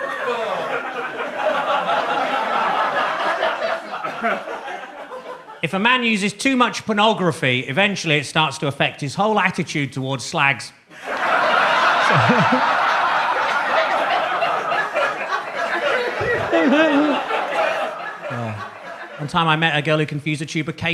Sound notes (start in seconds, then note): 11.2 audience laughs